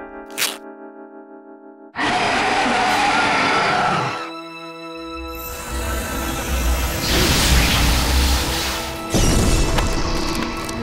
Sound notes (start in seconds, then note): 2.0 roars